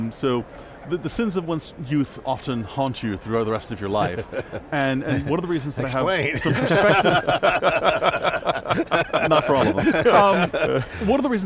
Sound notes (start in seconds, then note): 5.8 group laughing; 5.8 laughing